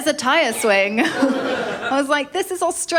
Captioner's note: laughter